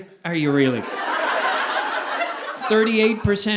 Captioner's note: audience laughing